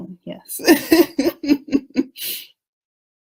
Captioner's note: laughs